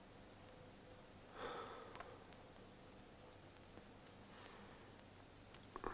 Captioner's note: sighs